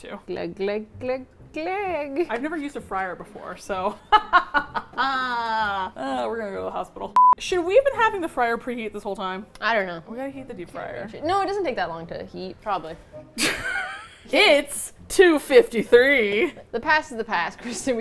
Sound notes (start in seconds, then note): 4.1 laughs; 7.1 beep; 13.4 laughing